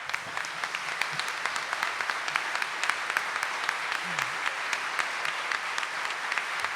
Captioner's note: audience applauding